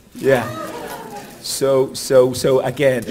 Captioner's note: laughs